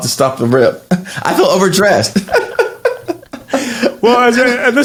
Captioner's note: laughs